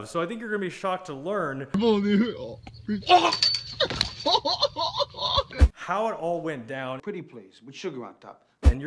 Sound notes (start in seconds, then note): 1.9 man groaning; 3.8 man laughing